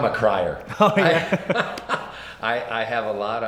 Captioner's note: laughs